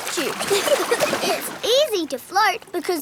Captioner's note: giggling